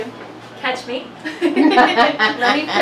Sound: laughing

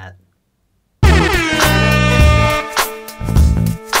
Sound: airhorn

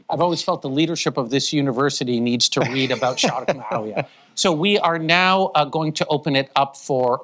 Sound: foreign language 01:07:36

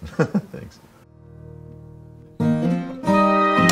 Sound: chuckles; folksy music

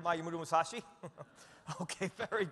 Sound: chuckles

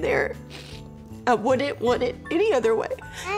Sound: sniffles

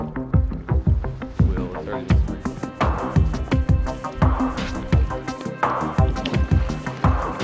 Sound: dramatic music continues; indistinct conversation

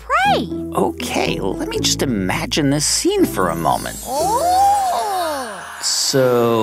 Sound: soundbite of storytime whoosh

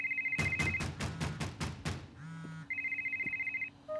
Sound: sound of door banging and cell phone ringing

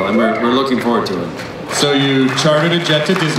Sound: applause

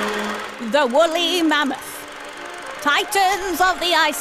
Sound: film reel clatters; dramatically

